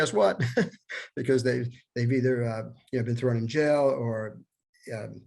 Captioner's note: laughter